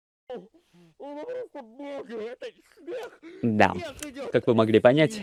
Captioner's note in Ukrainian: Звуки екстазу від того що пішов сніг